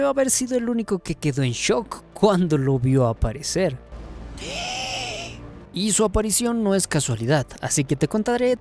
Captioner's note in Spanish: grito ahogado